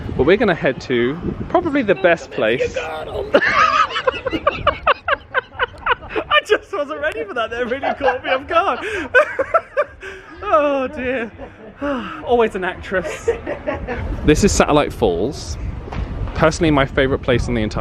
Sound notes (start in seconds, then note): 2.5 laughing; 9.2 laughing; 13.0 laughing